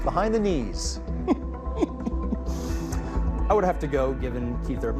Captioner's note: laughing